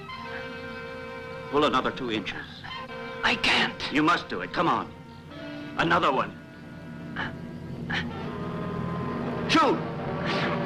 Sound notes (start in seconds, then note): 7.8 soft grunting